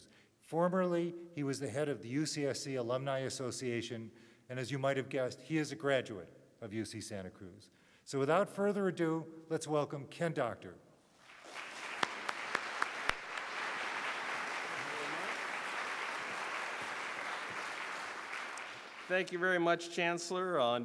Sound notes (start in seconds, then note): 11.2 clapping